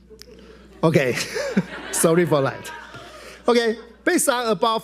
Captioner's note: laughs